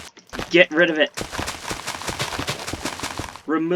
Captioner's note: rapid Clicking